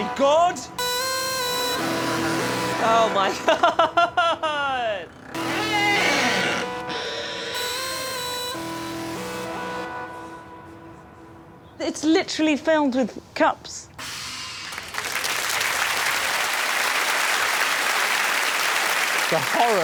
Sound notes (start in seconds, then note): 2.0 ominous music playing; 5.1 door creaks; 14.6 applause